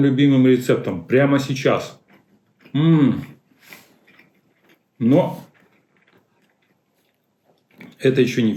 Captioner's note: clears throat